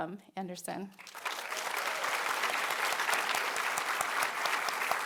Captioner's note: audience clapping